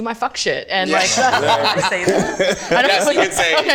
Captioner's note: group laughing